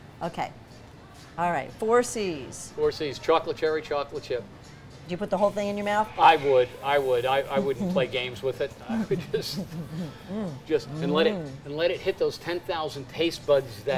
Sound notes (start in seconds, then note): 8.8 laughs